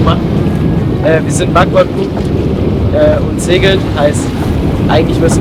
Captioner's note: wind from starboard